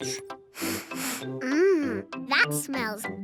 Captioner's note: sniffs